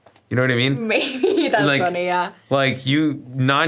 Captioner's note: laughs